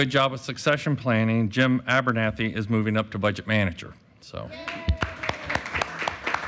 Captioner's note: applause